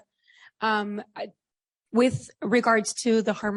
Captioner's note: foreign language